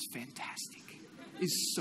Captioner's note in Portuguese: Risos